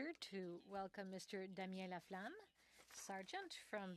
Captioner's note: speaking French